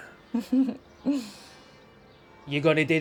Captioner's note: giggling